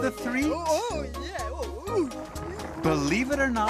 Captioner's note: muttering